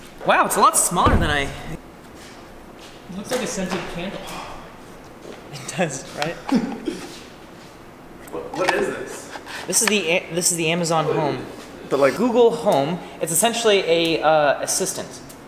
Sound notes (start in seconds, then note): 6.3 laughs